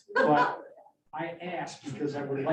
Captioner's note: laughs